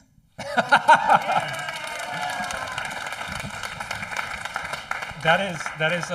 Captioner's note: laughing; audience applauding